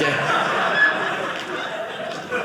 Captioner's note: audience laughing